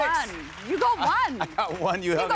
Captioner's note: chuckling